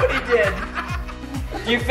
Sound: laughs

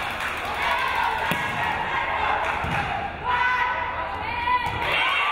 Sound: crowd

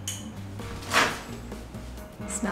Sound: spoon clinking; microwave door popping

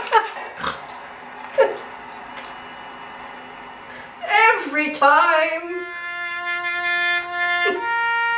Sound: laughs

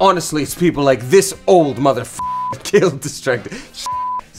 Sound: beep

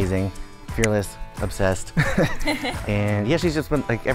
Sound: chuckles

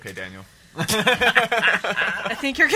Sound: laughs

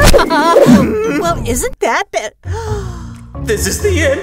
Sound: gasp

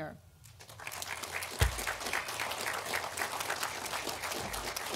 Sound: audience applauding

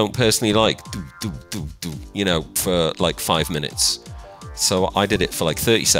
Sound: imitates bassline bumping

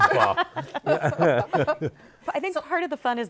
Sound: laughter

